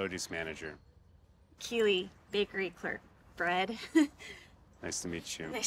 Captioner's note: chuckles